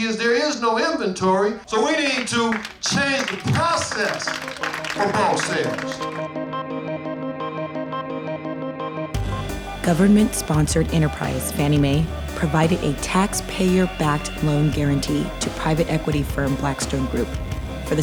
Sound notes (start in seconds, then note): 5.7 audience applauding; 5.7 lively electronic music